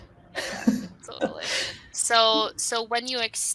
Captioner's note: laughs